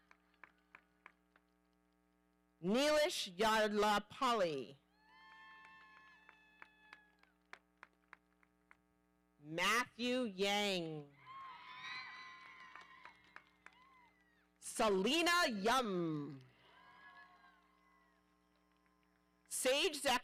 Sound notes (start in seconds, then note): 0.2 audience applauding; 5.5 audience applauding; 11.2 audience cheering; 16.6 audience cheering